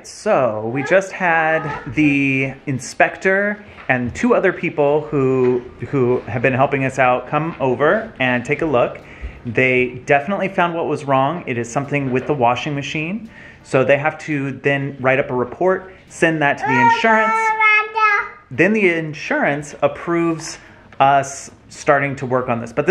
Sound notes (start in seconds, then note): 17.8 shouts